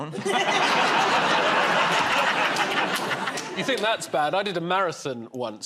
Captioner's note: laughter